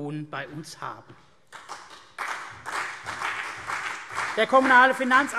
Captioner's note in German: Beifall CDU und BÜNDNIS 90/DIE GRÜNEN